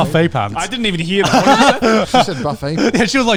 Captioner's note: all laughing